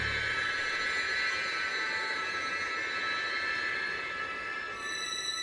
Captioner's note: high pitched tones